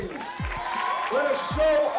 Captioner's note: cheering